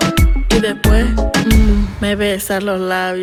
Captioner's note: heavy Breathing